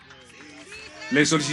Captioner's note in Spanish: aplausos